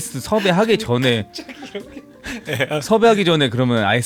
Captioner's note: laughs